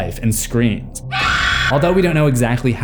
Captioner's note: scream